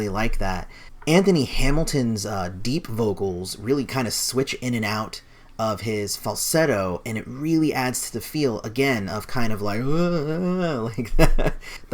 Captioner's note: laughs; dizzy Noises